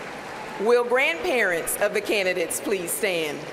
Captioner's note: applause